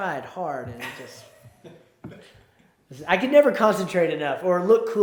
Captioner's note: laughs